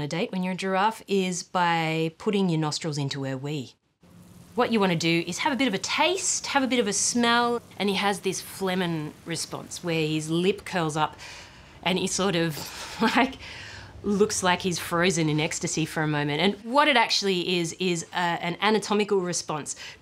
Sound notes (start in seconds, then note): 13.3 laughs